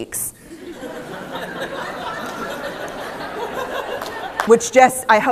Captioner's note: laughter